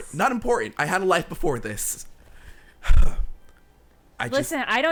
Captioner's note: sighing